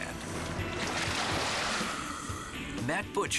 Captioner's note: water splashing